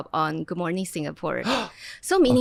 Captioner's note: gasps